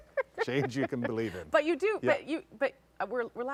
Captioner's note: laughter